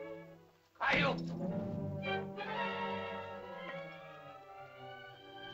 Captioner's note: sentimental music; Tumak shouts; suspenseful music; sentimental music